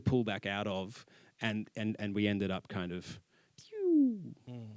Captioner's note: pewww